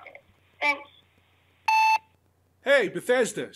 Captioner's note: tone